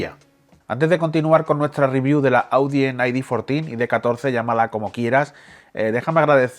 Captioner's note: spanish